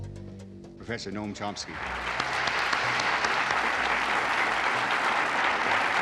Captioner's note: audience applauding